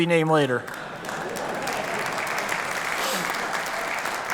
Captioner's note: applause